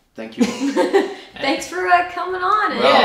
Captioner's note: laughing